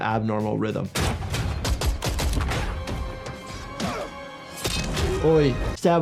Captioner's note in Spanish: balazos; gruñidos